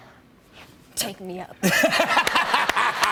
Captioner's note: laughs